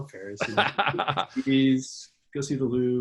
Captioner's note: laughs